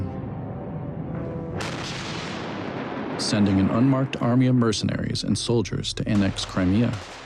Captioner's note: blasting